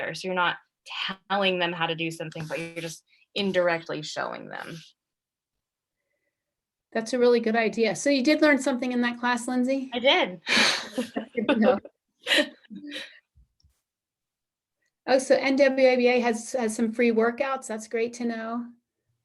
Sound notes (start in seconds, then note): 10.5 laughter